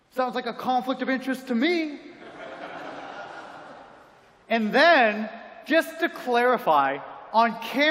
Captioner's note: laughter